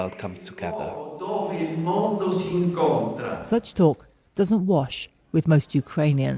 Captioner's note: speaking Italian